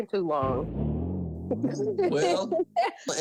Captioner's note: chuckling